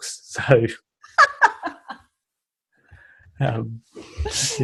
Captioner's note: laughs